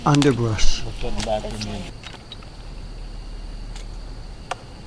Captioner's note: background chattering